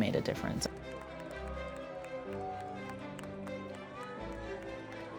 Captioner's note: people cheer